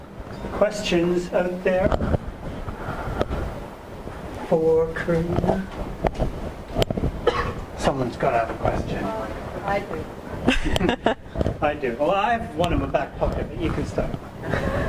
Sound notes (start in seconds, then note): 9.9 voiceover; 10.4 laughing; 11.8 voiceover